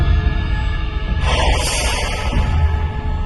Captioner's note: vents expelling air